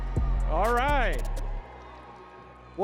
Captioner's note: audience cheering